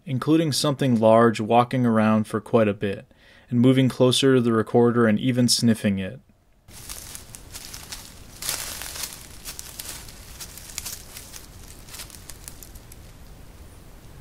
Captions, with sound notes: including something large walking around for quite a bit, and moving closer to the recorder and even sniffing it. (brush crackling)